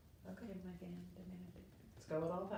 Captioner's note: speaking faintly